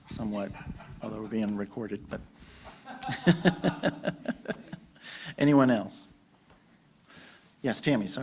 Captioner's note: laughter